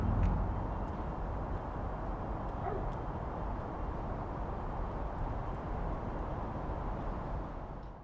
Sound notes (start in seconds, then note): 2.6 dog barks